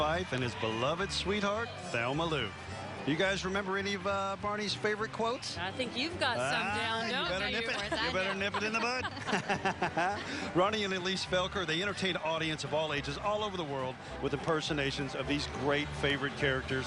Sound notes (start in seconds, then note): 11.4 laughing